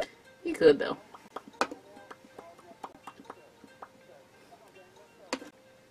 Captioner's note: lip popping to move color around